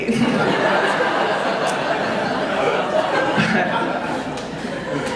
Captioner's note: audience laughing